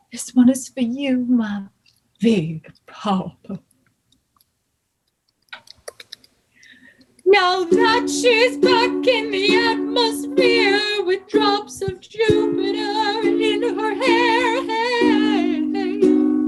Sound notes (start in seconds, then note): 7.3 typing sounds